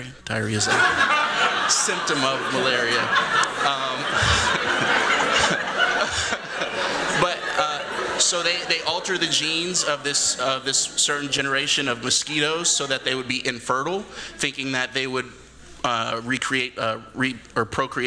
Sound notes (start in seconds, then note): 3.0 laughter